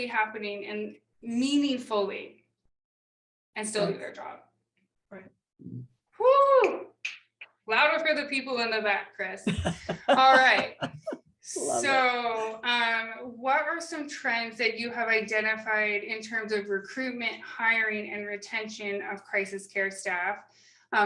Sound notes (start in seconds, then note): 7.0 fingers snapping; 9.4 laughing